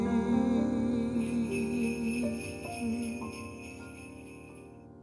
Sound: sleigh bells jingling

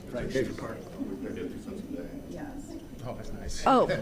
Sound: people murmuring

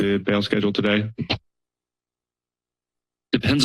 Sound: silence

